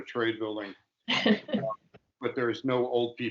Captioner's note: laughing